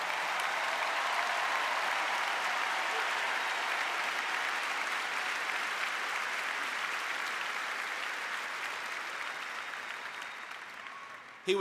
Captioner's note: applause